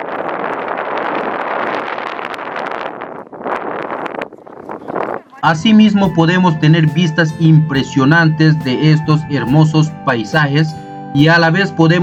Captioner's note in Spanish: viento